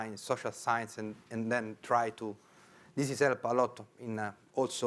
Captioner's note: speaking in foreign language